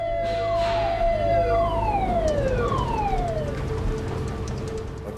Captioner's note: alarm blaring